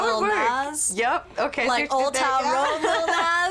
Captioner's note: laughs